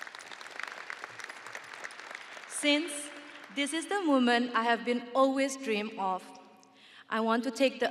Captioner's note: audience applauding